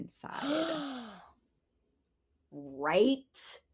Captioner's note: gasps